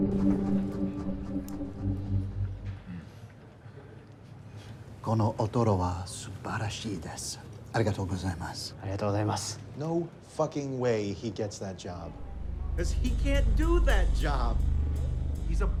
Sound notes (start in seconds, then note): 5.2 Wags speaks foreign language; 9.1 chef speaks foreign language